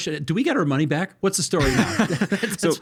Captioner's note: laughing